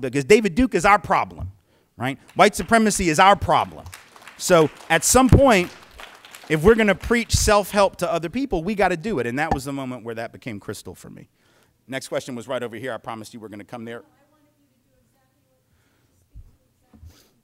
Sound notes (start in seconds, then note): 3.8 light clapping